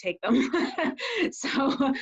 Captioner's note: laughs